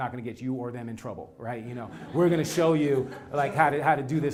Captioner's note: laugh